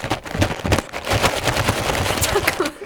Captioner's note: earthquake